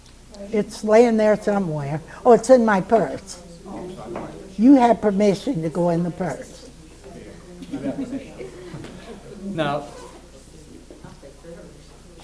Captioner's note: laughs